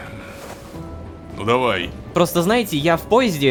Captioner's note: pat